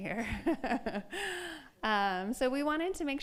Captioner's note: laughs